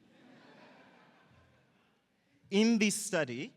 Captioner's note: audience laughing